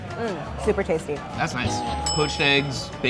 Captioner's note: bell dinging